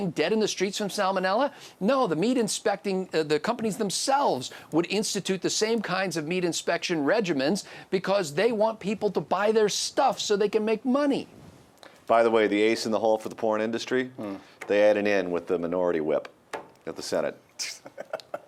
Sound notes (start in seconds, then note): 12.2 voiceover